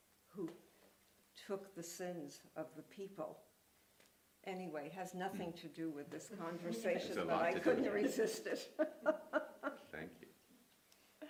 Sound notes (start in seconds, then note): 7.3 laughs